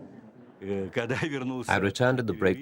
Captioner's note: speaking Russian